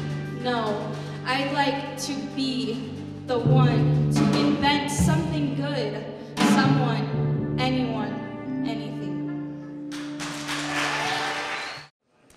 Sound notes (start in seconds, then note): 9.9 applause